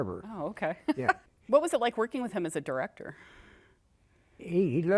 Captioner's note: laughter